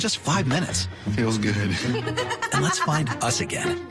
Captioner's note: laughs